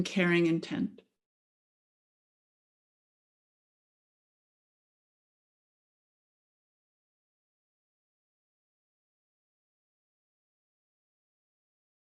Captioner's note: silence